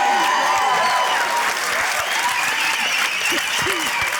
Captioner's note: cheering, applause; cheering, applause, whistling